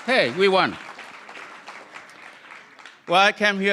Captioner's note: applause